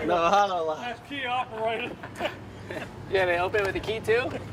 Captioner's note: laughs